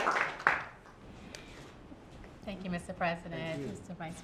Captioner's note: applause